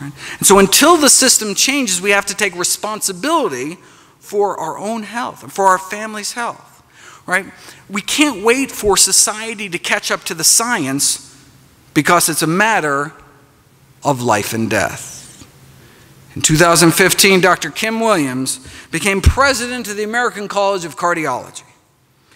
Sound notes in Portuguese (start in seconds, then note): none